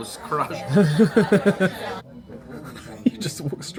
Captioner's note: laughs